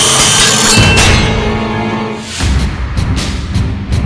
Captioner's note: metal clanking; saw whirring; tense music